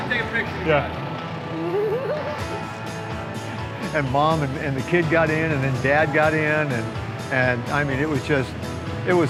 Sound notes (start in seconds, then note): 1.6 giggles